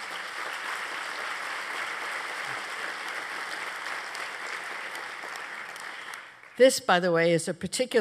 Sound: applause

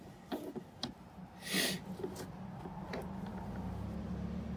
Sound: sniffing

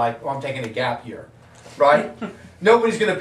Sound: audience laughing

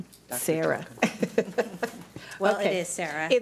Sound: chuckling

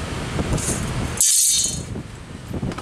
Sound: clank

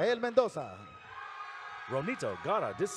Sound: audience cheering

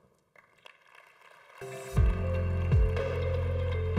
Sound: congregation applauding; upbeat music

